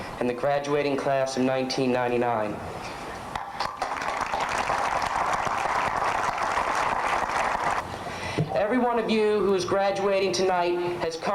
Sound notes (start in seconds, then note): 3.4 applause